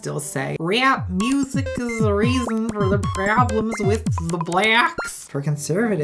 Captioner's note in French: bruits de robot